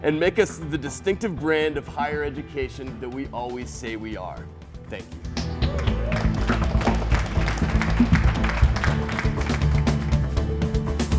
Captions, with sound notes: and make us the distinctive brand of higher education that we always say we are. Thank you. (clapping) (upbeat instrumental music)